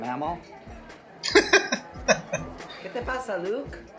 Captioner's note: laughing